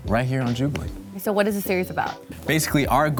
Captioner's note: none